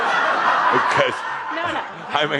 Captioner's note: laughter